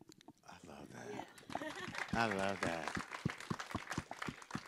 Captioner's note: group clapping